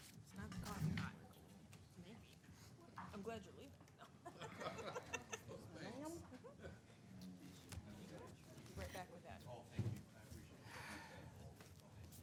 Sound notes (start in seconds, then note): 4.3 chuckling; 5.7 people chattering quietly